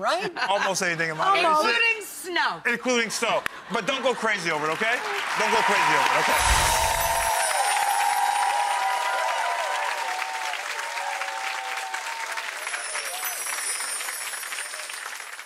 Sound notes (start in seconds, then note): 0.2 laughs loudly; 3.0 crowd laughs; 5.3 crowd applauses; 7.1 crowd cheers; 8.1 chimes